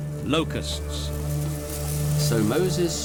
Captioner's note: locusts fluttering